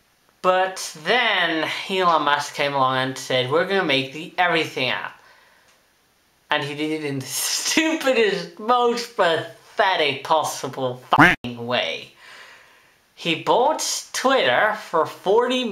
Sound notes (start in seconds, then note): 11.1 quack